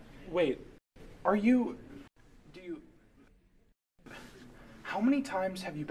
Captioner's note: sighs